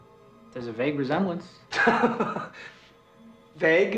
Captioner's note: laughs